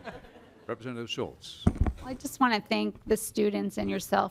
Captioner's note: laughter